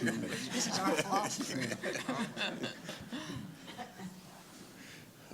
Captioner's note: laughter